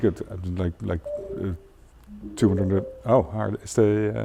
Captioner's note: electronic chiming